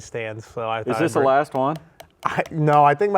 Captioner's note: cards tapping